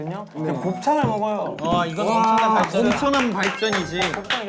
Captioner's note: applause